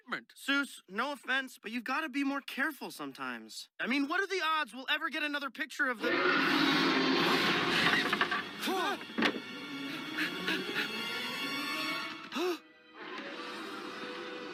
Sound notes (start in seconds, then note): 6.0 roar